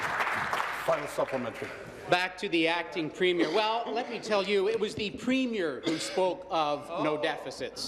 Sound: applause

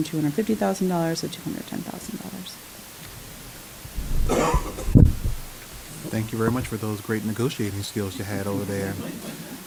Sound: laughs

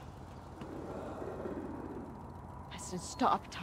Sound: demon growls

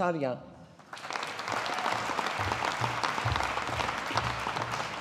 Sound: audience applauding

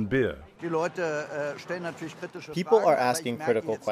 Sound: through translator

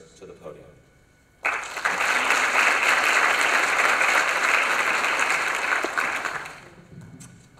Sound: applause

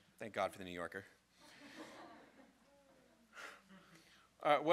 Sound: crowd laughing

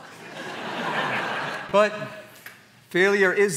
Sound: laughter

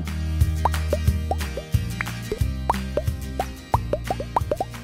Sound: whimsical popping

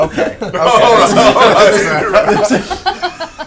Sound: laughter

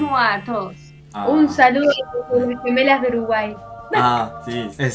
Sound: Spanish

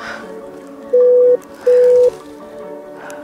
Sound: beep Beep

